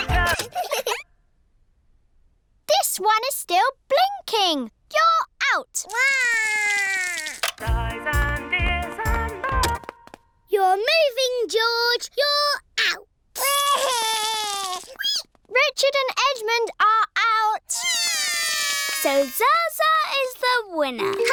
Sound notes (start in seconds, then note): 0.2 music stops; 5.9 cries; 10.0 music stops; 13.4 cries; 17.9 both cry